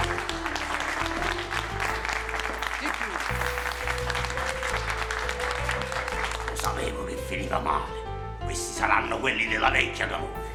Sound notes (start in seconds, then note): 0.0 applause in the background